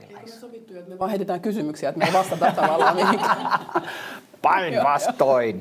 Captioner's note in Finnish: äänekästä naurua